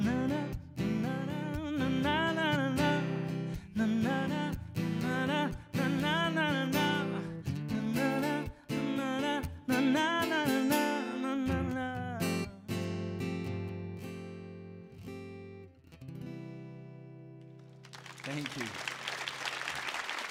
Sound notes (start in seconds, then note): 17.8 audience applauds and cheers